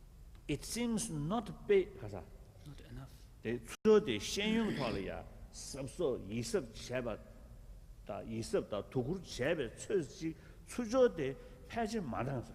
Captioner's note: foreign words